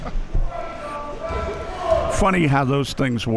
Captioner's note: spectators shouting